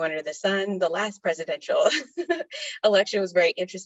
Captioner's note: laughs